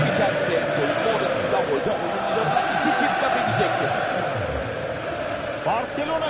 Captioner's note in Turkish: coşkulu tezahürat